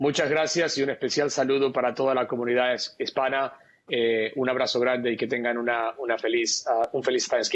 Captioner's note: speaking spanish